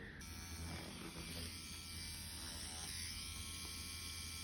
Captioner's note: machine whirring